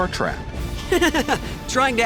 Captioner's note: laughter